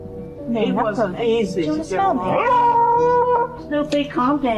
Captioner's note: loud Barking